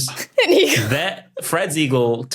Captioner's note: giggles